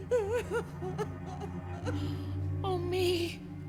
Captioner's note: crying